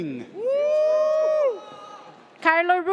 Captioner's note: audience cheers